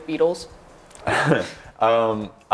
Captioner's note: laugh